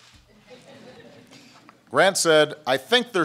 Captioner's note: laughter